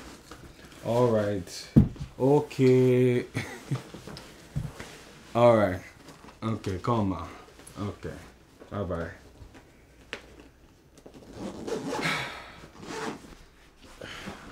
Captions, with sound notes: All right. Okay... (Nosa Laughs) Alright. Okay, salutations ma. Okay Bye bye. (Nosa sighs)